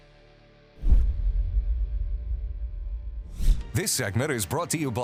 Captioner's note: logo whooshes